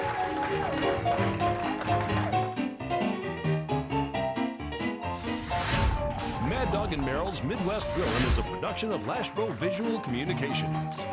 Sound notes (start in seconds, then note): 0.0 group cheering; 0.0 group clapping; 3.0 bright ragtime piano music; 3.0 flames whooshing